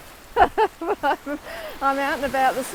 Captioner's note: laughing